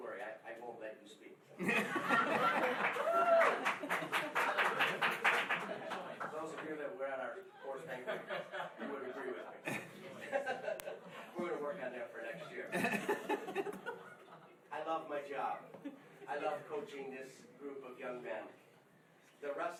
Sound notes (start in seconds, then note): 1.6 laughing